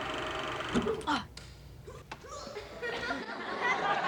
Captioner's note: Mike grunting; all laughing